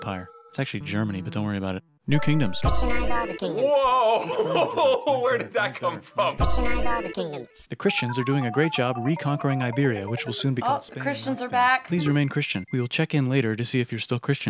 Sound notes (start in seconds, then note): 2.5 robotic voice; 6.3 robotic voice